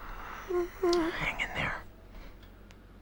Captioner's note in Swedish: gnäller